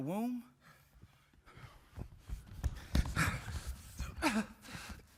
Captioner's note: group panting